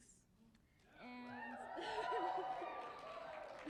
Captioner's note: cheering and applause